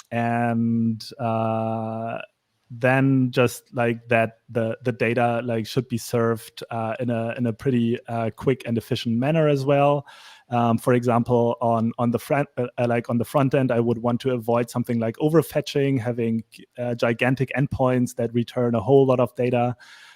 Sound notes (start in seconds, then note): none